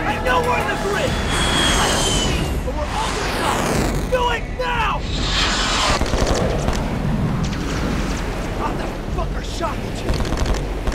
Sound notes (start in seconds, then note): 5.9 guns firing